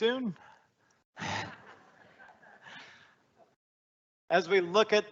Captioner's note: all laughing